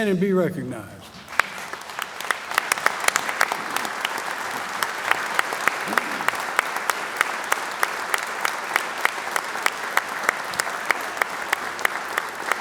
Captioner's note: applause